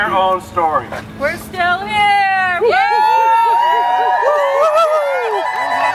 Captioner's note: cheering